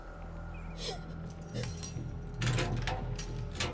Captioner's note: clang; crying